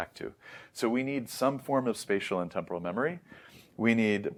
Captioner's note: sniff